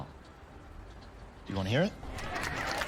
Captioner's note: cheering